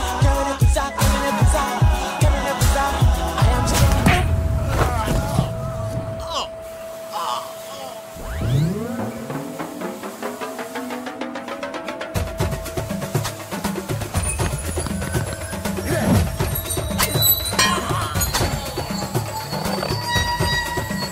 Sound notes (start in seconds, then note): 0.1 singing in foreign language; 3.7 kick thuds; 3.9 groaning; 9.9 upbeat percussive music; 17.8 steel pipes clanking